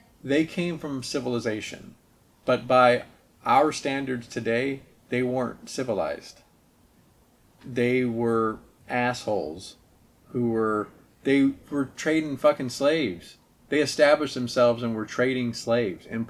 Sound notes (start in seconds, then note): none